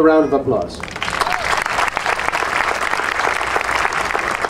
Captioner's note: audience applauding